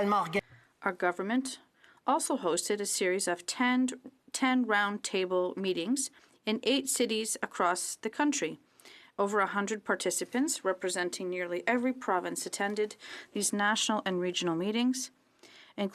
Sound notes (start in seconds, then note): 5.0 speaking french